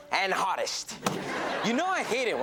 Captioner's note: audience laughs